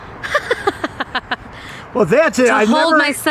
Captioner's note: laughing